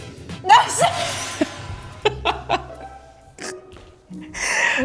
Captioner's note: laughing